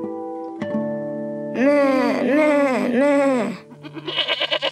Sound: plucking string music; imitating goat sounds; goat braying

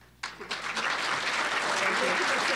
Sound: applause

